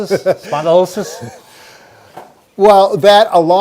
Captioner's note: laughter